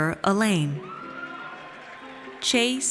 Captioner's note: audience cheers